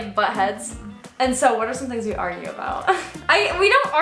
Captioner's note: chuckles